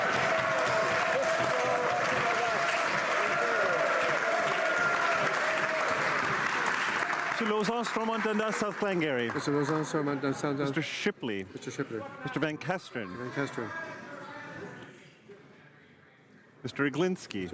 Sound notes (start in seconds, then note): 4.7 applause